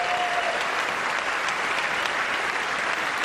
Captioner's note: applause